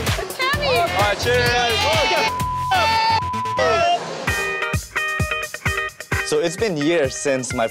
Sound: cheers

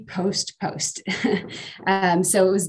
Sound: laughing

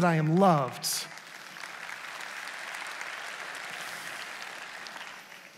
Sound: congregation applauds

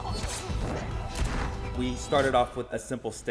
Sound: gunshot firing

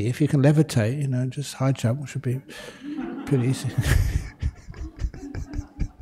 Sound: laughter

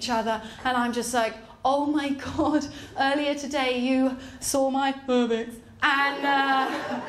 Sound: mutters

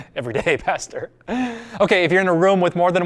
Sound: pastor: Laughter

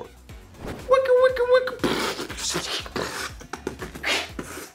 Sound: Frankie beat boxing

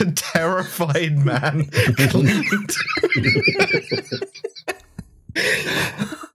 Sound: overtaken by laughter; helpless laughter

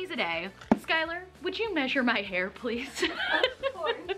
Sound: laughs

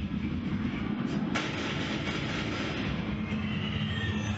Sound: six gunshots fired

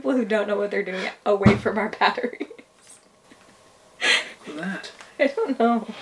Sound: laughs

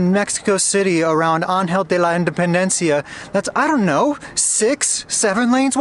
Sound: speaking in Spanish

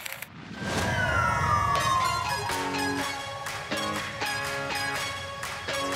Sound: sirens blare; upbeat music

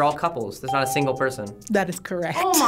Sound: bell chimes

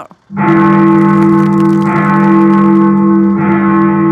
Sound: bell tolling

